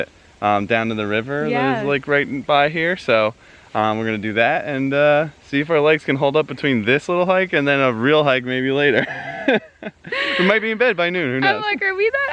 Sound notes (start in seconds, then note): 8.9 laughs